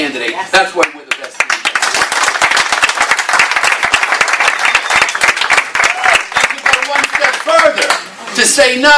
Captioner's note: applause